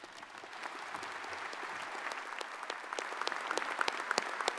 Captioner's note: audience applauds